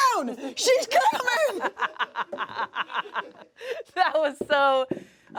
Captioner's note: laughs